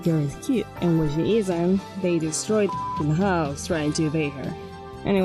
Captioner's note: beep